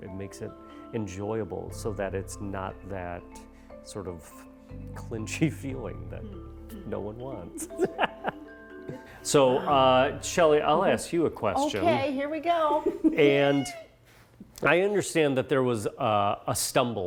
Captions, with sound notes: It makes it enjoyable so that it's not that sort of clinchy feeling that no one wants (laughs) So Shelley I'll ask you a question. - Okay,, here we go. - And I understand that there was a stumble halfway